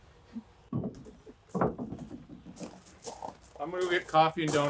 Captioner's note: wood clunking